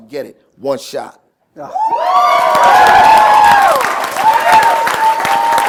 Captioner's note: cheers, applause